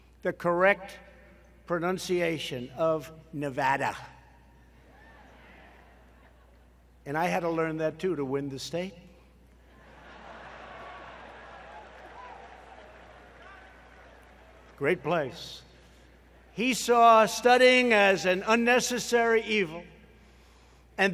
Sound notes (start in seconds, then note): 10.3 applause